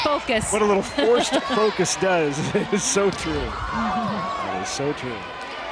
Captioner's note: chuckling; laughing